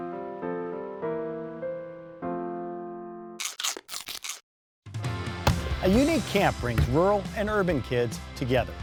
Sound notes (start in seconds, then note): 0.0 piano music; 5.4 sounds of crunching